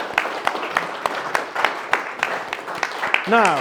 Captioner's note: applause